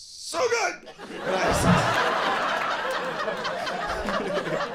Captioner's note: audience laughs